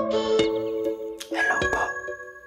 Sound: whispers

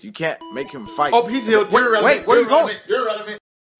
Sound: Pokémon Center healing noise

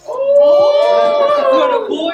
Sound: family cheering

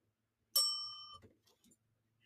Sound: bell dings

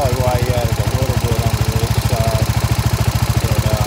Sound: running engine

